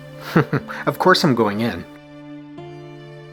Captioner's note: chuckles